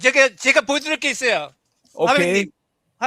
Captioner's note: non-english speech